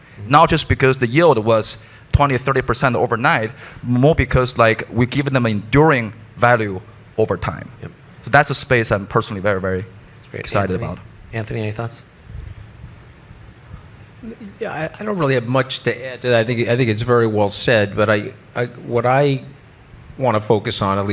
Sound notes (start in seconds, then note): none